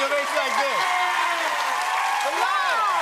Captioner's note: cheers and applause